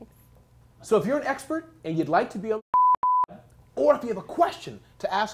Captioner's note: beep beep